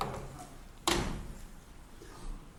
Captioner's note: door slamming